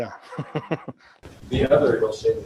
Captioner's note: laughing